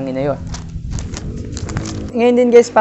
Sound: wind starts threatening

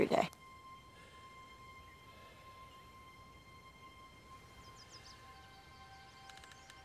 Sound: birds chirping; deep breathing

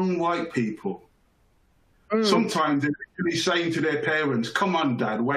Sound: chuckles

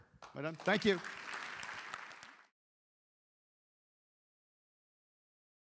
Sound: applause

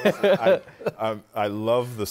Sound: laughter

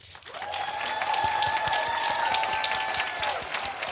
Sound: audience applauding

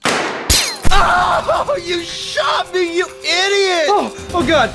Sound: gunshot, bullet ricochets; screams in pain

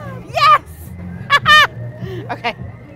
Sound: laughs

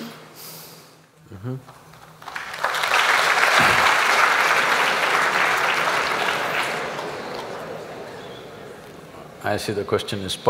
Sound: applause

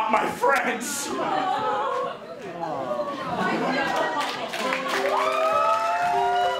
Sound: audience awws and says bye to Ken

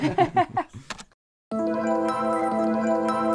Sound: laughing; soft music

